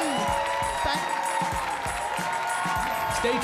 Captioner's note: audience laughing